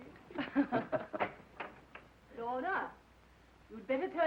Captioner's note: both laughing